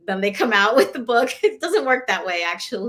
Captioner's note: laughter